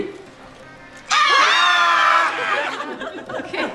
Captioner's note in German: Geschrei; Lachen